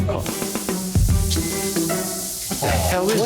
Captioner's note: grill sizzling